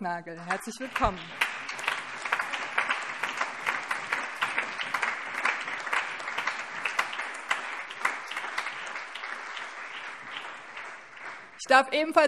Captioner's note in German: Allgemeiner Beifall